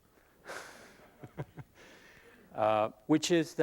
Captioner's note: laughs